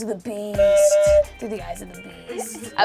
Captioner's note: buzzer honks